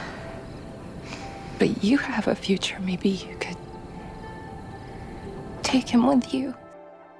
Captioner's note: voiceover